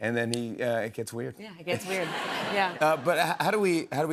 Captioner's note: laughter